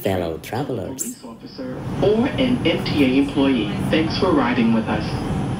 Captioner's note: subway speakers